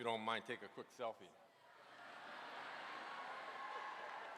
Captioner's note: applause